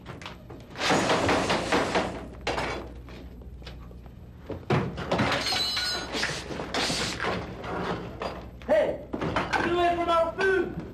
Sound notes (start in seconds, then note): 0.8 bangs on table and hisses even more; 6.1 hiss, hiss